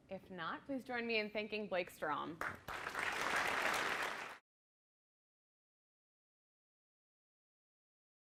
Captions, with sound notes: If not, please join me in thanking Blake Strom. (audience applauding)